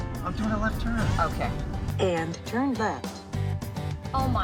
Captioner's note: navigation system voice